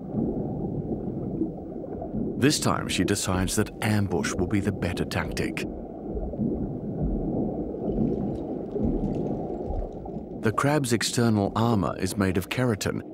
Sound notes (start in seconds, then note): none